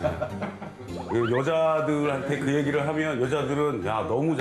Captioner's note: hahahahahahaha